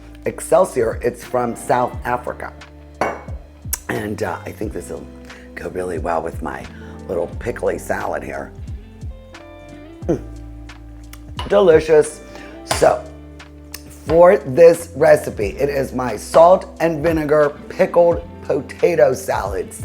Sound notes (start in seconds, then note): 2.9 soft gentle music; 3.0 bottle clinking; 8.6 soft gentle music; 12.6 bottle clinking